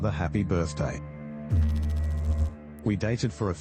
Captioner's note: electrical noise